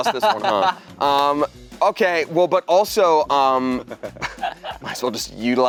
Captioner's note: laughing